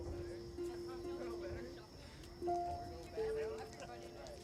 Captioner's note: people chattering